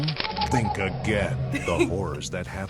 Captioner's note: laughs